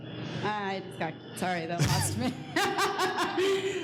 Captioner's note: laughs